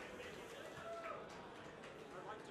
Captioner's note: participant cheering